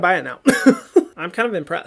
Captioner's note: laughs